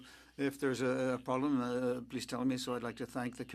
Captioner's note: speaking French